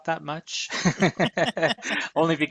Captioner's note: laughter